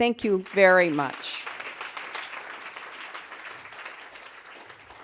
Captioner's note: applause